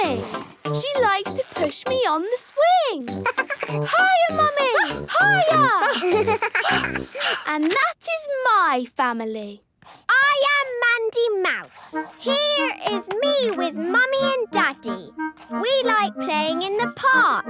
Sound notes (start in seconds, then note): 3.2 giggles; 5.3 panting